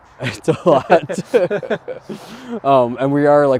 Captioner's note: both laughing